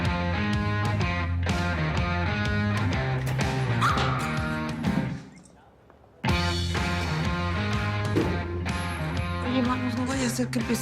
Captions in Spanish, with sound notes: [Grito] - OYE, MANO, NO VAYA A SER QUE EMPIECE EL JUICIO